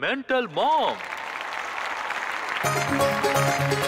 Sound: applause

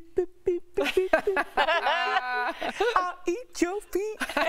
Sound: laughter

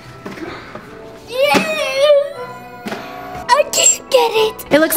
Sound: grunts

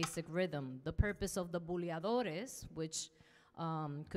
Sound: speaking in Spanish

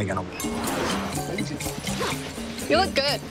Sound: logo swooshes

